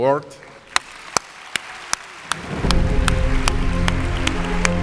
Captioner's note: audience applauds; uplifting music